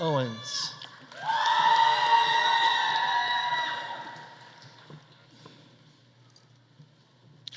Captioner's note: audience cheering; audience applauding